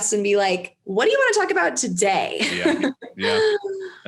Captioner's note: laughs